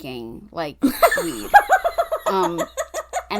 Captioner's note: cackling